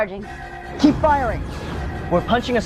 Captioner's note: explosion